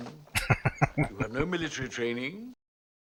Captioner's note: chuckling